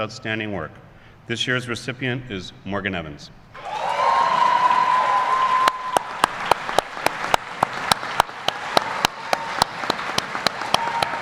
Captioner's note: applause